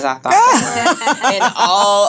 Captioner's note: laughing